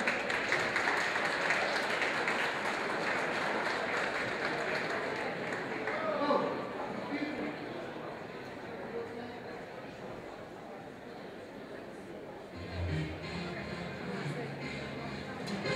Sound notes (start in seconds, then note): 0.0 audience applause